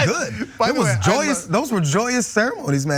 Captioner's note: laugh